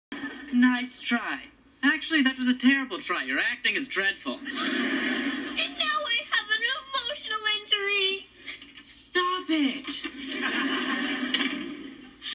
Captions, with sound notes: Nice Try. Actually, That Was A Terrible Try. Your Acting Was Dreadful. (Laughter) And Now I Have An EMOTIONAL INJURY!!!!!! Stop It!